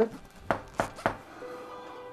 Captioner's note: knocking